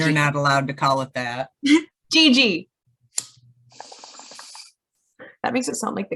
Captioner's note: lighter clicks, bong bubbles